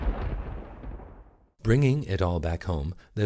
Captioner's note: thunder